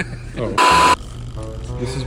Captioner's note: laughing; beep